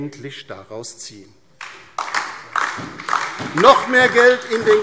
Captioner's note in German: Beifall DIE LINKE und vereinzelt SPD